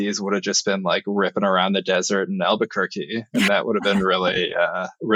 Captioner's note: <Laugh>